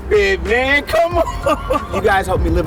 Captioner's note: laughs